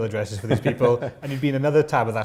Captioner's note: laughter